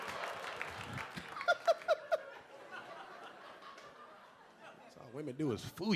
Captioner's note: audience laughing and clapping; LilRel laughing